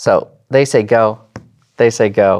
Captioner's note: taps table